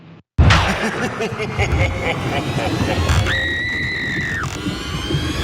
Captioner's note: laugh